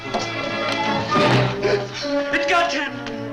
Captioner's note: gasps